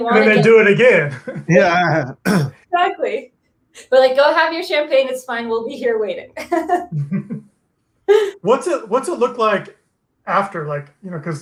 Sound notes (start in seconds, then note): 6.3 laughs